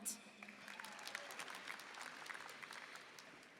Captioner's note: applause